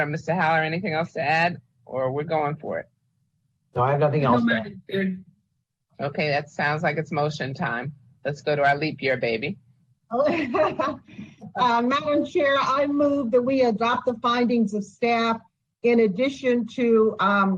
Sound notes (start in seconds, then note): 10.3 laughs